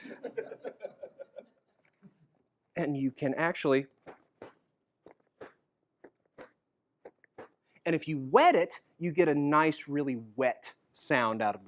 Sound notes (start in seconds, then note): 0.0 laughter; 3.8 closes book and makes heartbeat noise